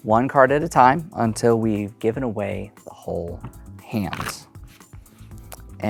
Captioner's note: cards riffling